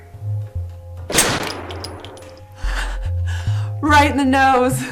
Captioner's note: gunshot fires